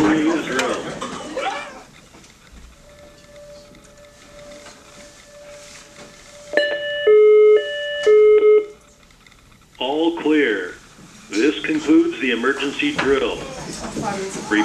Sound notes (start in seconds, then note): 2.7 alarm